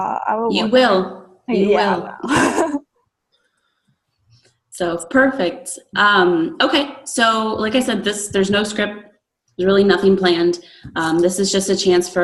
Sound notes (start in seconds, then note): 2.2 laughing